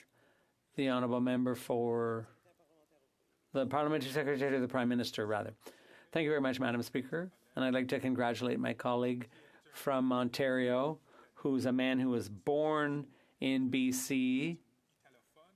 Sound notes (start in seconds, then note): 4.6 speaking French